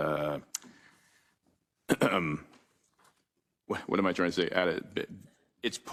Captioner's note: cough